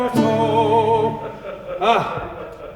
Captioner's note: audience laughs